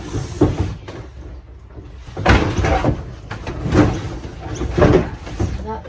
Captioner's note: much loud banging and clanking